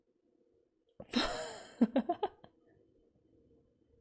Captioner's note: laughs